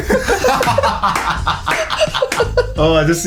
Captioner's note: laughing